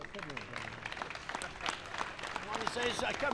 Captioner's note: applause